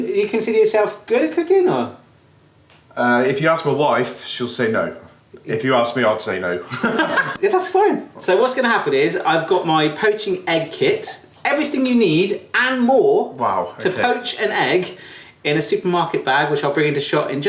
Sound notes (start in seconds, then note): 6.7 laughs